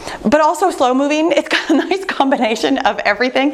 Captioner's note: chuckles